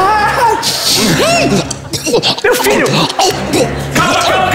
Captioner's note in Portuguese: tosse